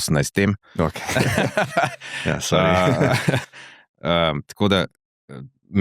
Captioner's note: laughter